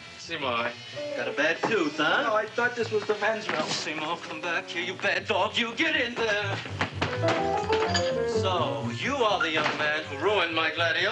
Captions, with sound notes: Seymour, got a bad tooth huh? - No, I thought this was the Men's Room. - Seymour come back here you bad dog you, get in there! (unsteady dramatic music) (metallic clattering) So, you are the young man who ruined my gladiolas huh?